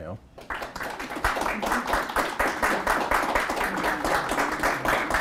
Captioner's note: audience applauding